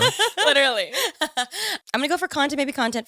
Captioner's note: all laughing